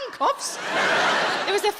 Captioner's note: audience laughs